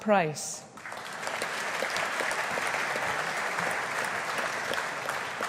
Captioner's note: audience applauding